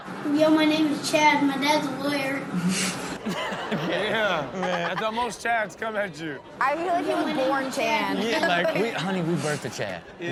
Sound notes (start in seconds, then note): 2.7 person behind camera chuckles; 3.2 chuckles